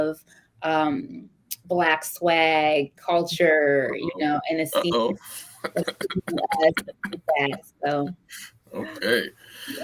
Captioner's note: laughter